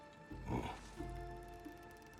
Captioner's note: grunt